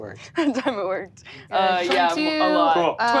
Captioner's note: laughs